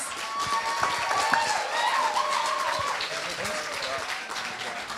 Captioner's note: applause